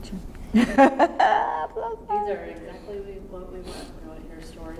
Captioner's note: laughs